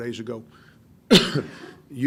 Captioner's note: coughs